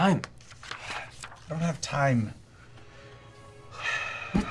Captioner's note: sighs